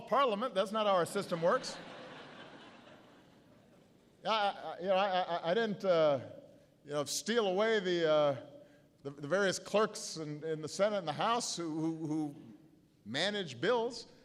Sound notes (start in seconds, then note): 2.9 laughter